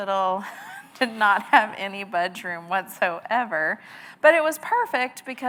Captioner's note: chuckles